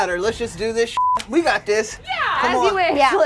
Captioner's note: beep